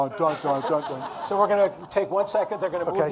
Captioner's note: audience laughing